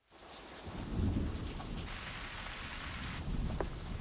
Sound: thunder rumbling

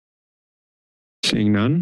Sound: silence

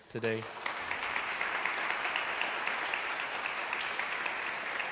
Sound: audience applauding

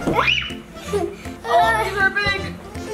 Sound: screams

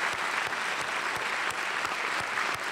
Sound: applause

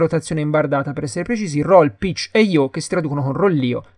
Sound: in Italian

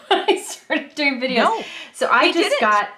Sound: laughing

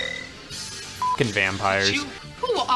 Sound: beep

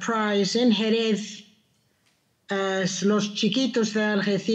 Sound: speaking Spanish

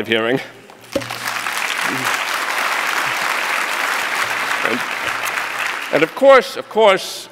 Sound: applause

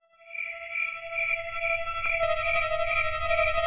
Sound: crickets chirping

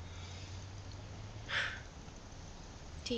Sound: sighs

